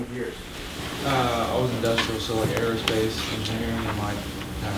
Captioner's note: voiceover